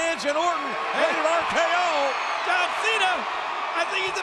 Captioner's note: crowd cheering